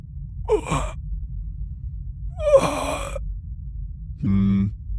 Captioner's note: gasping